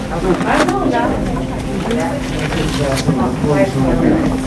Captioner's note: hospital occupants mumbling